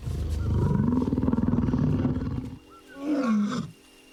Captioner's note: grumbling